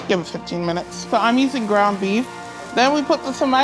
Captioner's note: meat sizzling